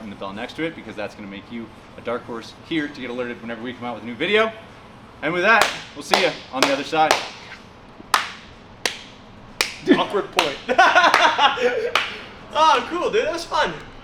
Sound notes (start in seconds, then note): 8.1 claps; 9.7 laughs